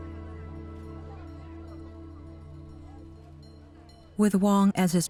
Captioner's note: people chattering